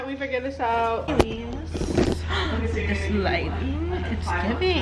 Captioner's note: gasps